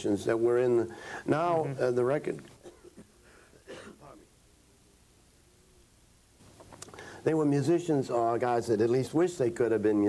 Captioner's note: coughs